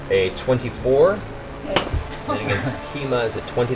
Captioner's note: higher voice